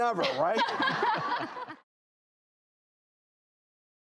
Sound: laughing

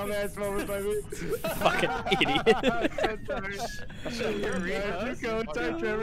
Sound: laughter

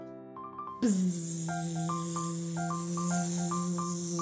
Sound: buzzing

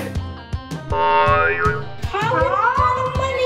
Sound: spring boinging

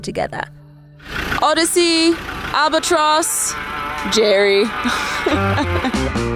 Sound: chuckling

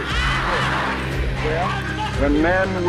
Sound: crowd

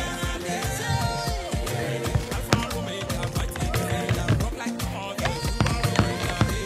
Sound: typing

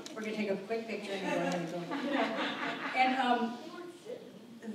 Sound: audience laughs

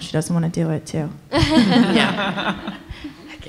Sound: laughter

